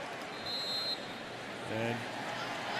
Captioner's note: whistle